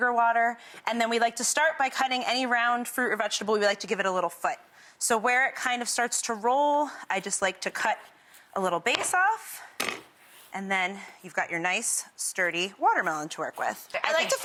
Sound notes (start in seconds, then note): 9.3 knife clanking